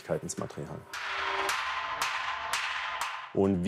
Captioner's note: bright hammer sound